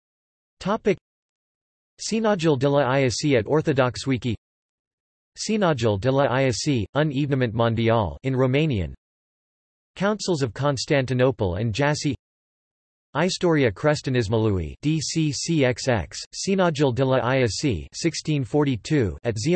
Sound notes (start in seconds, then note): 9.2 in Romanian